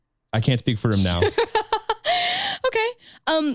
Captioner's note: laughs